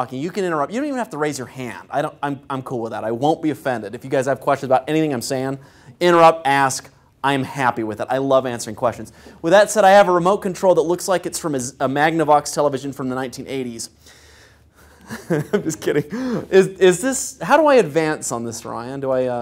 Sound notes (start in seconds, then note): 15.0 laugh